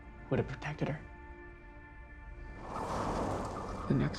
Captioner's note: none